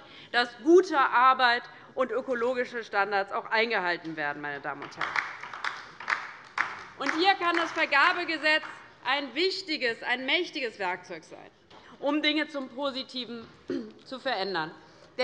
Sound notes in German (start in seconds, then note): 4.6 Beifall bei der LINKEN